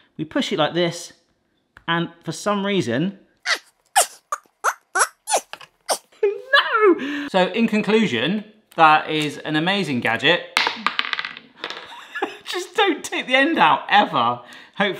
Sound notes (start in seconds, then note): 3.9 squeaks; 10.6 ball rattles; 12.2 laughs